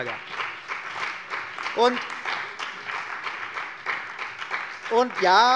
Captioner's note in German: Beifall bei der CDU und dem BÜNDNIS 90/DIE GRÜNEN